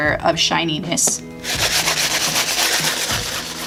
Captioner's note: loud scrubbing